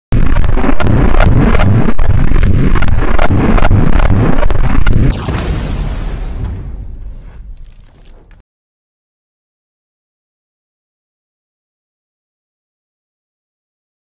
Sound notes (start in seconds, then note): 0.2 zapping; 5.1 explosion; 8.7 silence